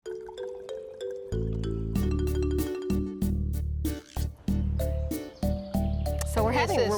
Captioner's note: liquid pouring; cheerful music